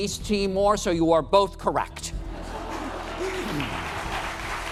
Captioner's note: applause